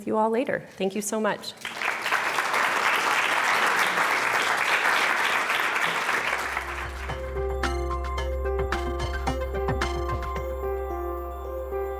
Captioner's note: applause